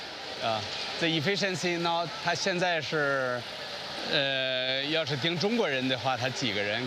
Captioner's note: speaks foreign language